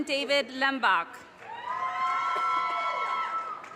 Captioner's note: audience cheers and applause